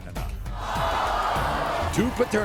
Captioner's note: audience booing